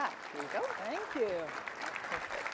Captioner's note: applause